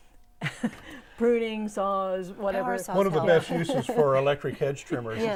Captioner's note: laughing